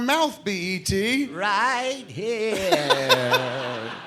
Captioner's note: imitating e.t